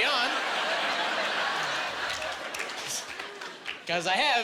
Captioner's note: laughing